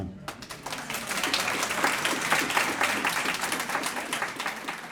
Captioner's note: applause